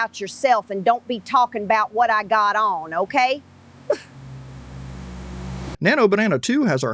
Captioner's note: scoffs